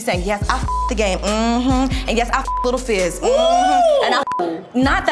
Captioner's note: beep; beep